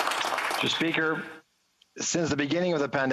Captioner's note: applause